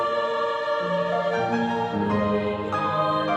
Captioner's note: none